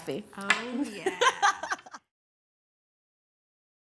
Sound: laugh

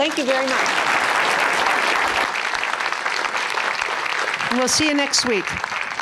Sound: applause

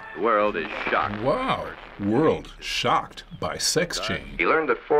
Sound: voice-over

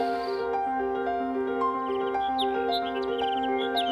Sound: soft piano music; birds chirping

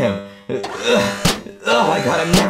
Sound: Mario grunting

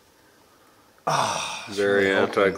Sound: grunting

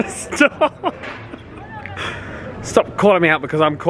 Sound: laughing

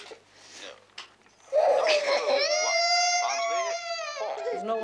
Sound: Sandra cries; Valerie cries

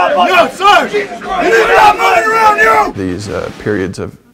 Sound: shouting

